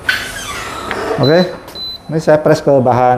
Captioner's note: press machine noise; beeping sound